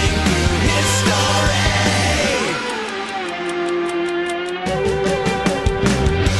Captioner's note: clock ticking; rock music